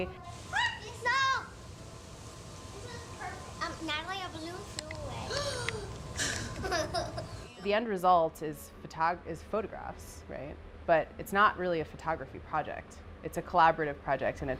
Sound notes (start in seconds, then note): 0.2 children chattering; 5.3 gasping